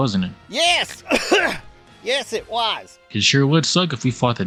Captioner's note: cough